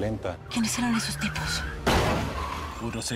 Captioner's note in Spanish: Estruendo